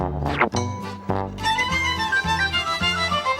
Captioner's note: air whooshing